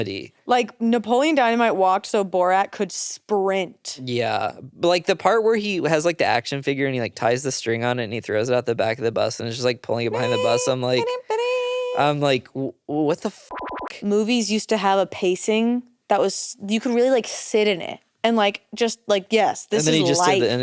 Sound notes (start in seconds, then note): 10.1 vocalizing; 13.5 beep